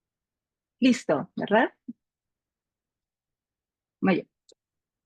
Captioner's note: speaking Spanish